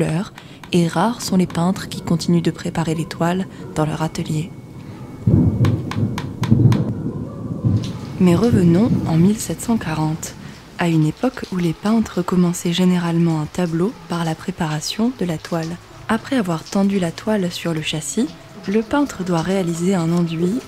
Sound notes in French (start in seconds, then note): 4.9 coup de tonnerre très proche; 8.1 bruit de l'averse sur la pierre